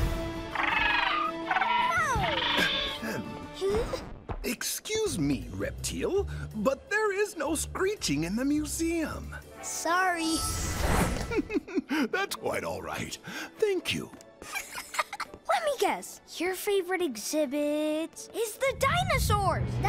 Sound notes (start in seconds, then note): 11.1 chuckles; 14.4 laughs